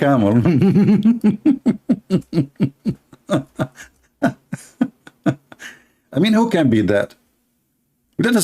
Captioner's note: laughter